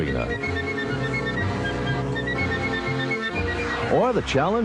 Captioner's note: boats revving